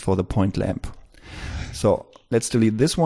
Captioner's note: whoosh